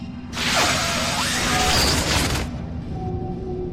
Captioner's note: energy pulsing